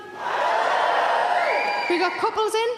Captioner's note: audience shouts woo